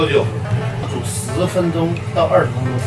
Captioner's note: boiling